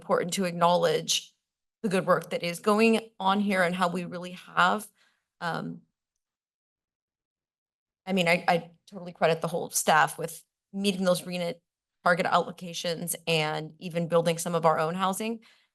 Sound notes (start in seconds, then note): none